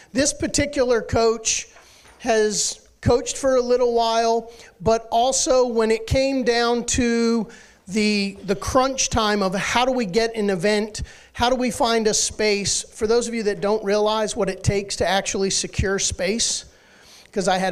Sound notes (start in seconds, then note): none